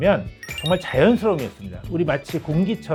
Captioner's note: sparkling sound effect